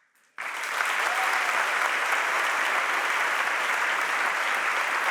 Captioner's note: audience applauds and cheers